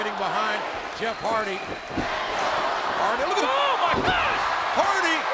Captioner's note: audience cheering